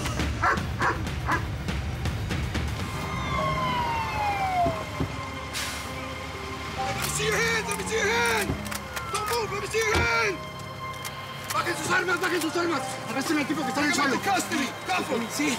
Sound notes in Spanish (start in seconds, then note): 0.4 ladridos